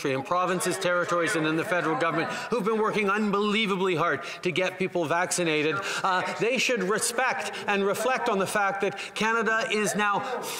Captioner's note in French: voix de l'interprète